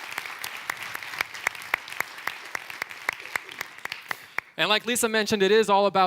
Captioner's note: clapping